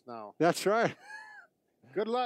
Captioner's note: laughing